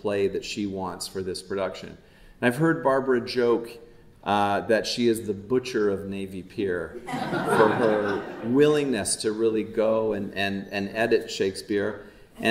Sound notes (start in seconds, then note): 7.0 audience laughing